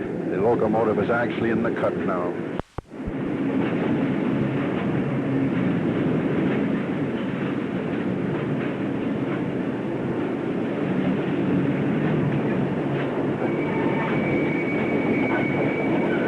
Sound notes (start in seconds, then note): 2.9 sound of train moving